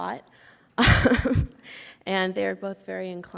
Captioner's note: laughs